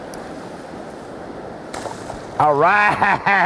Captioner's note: splash